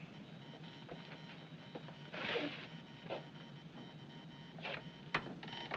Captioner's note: Clique, Zumbido Continue, Fraco